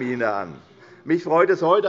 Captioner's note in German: Unruhe – Glockenzeichen des Präsidenten